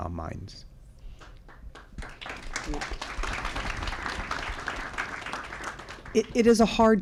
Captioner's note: applause